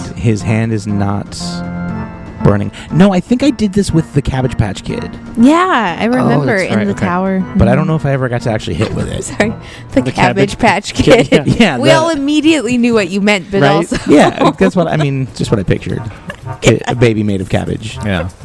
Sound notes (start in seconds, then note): 11.0 laughing; 13.7 laughing; 13.7 laughs